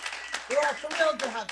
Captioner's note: applause